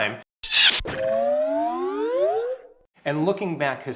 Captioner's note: slide whistle whistling